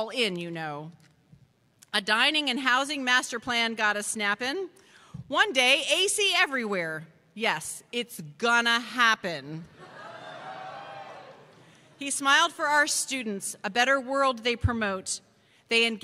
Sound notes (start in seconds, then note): 8.2 cheers